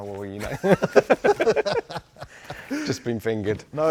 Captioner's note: laughter